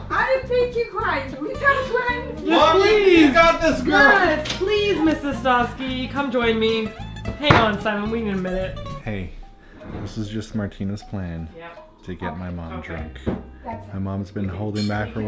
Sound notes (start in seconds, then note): 9.5 whispering